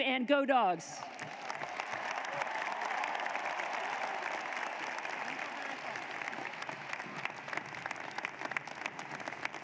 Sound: applause

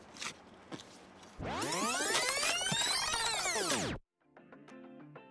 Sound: video whirring; lighthearted music

